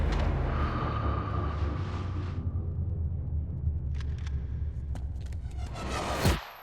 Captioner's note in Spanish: sonido al acelerar el vehículo